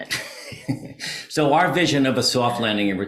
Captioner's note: laughs